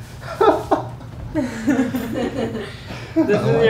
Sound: all laughing

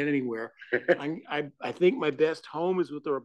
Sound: laugh

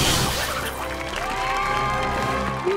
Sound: cheering

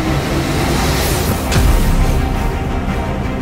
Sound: loud hyperspace rocket thruster whoosh

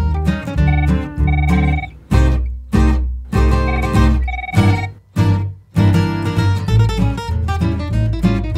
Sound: phone ringing

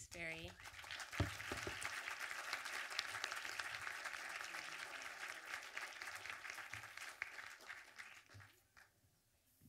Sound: audience applause

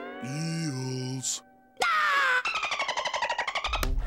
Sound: screaming, dolphin clicking

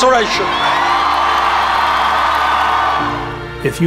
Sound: cheering

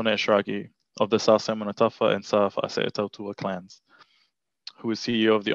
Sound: foreign language

